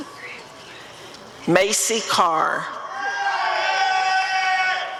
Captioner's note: applause and cheering